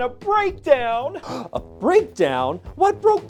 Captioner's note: gasps